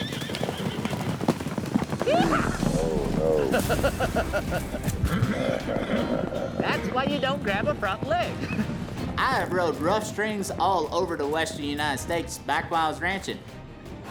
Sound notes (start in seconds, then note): 0.0 rope swirling, horse neighs; 3.0 fast hoofbeats; 4.6 laughing